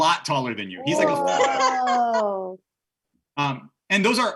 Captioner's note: laughing